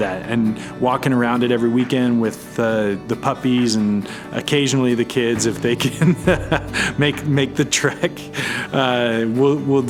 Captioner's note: laughs